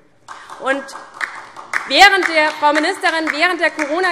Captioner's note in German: Beifall